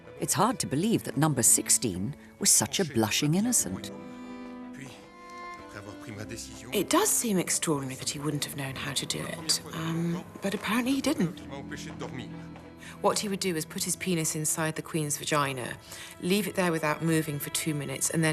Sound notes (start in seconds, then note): 4.8 gentle music; 4.8 men speaking in French